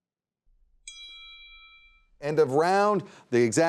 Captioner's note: bell dinging